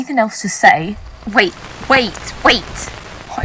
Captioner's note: with great difficulty, static